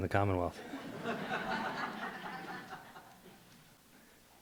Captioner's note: light laughter